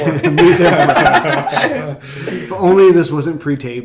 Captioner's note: laughing; laughs